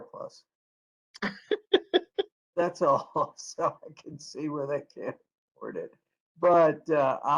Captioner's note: laughter